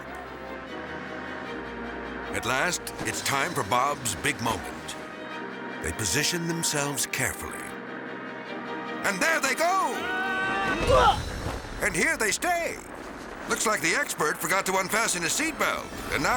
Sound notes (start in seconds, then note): 0.1 dramatic orchestral music; 9.7 screaming; 10.0 both grunt; 11.2 both thud